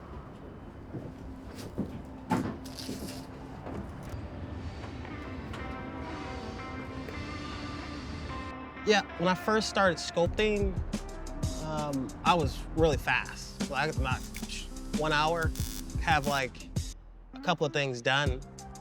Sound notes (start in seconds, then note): 0.0 footsteps clomping; 5.1 train horn blaring; 5.2 upbeat music